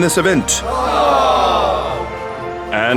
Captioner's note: sound FX: Disappointed crowd - "awwww"